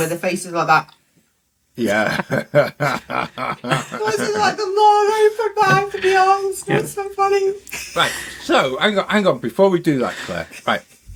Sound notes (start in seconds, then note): 1.9 laughter